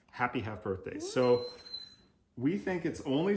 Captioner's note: Oliver yawns loudly with squeak